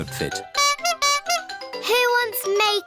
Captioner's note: toots horn